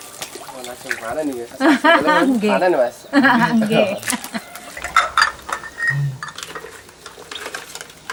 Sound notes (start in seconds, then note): 3.1 laughing